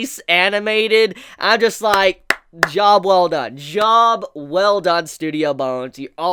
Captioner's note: claps